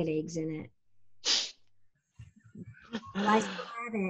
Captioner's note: Cole laughing